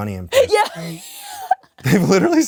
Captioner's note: Kris wheezes